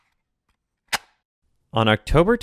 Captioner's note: cassette Tape Close